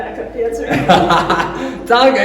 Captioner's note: laughing